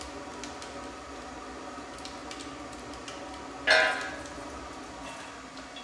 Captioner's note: glass crackles in the kiln